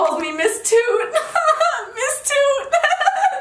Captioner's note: laughing